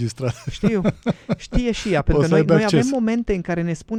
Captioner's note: laughter